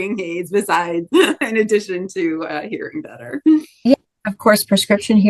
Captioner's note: laughs